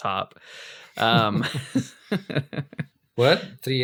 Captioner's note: laughs